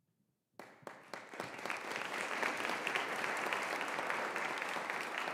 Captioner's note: audience applauding